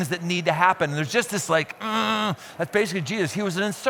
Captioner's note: grunts